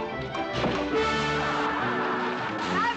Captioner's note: crowd laughing